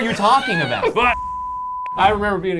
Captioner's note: digital beep